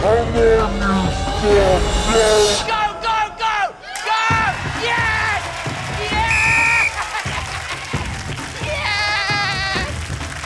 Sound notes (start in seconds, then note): 5.7 laughs; 6.2 blows whistle